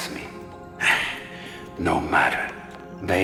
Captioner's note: sigh